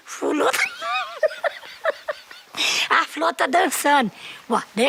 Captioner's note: laughs